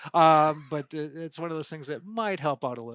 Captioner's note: laughing